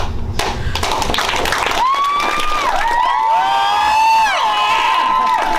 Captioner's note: applause